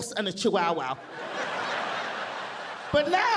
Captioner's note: audience laughing